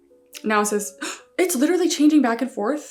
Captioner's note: gasps